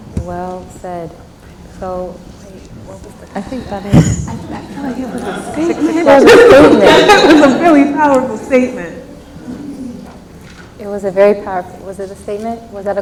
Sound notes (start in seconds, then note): 11.1 laughs